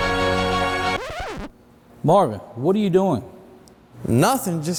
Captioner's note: inspirational music; record scratches